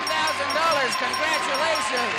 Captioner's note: dinging